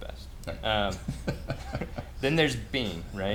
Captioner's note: laughs